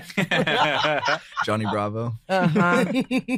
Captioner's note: group laughing